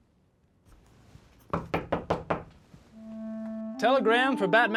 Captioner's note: knock on door